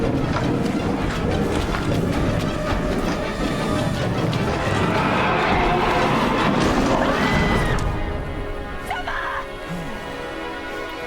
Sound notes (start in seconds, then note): 7.4 screams